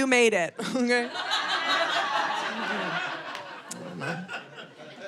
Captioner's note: audience laughing